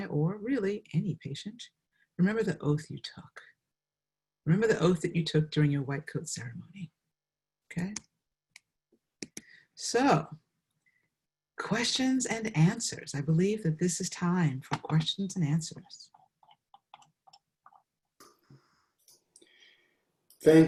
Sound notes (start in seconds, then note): 9.2 mouse clicks; 16.3 mouse scrolling; 19.2 mouse clicks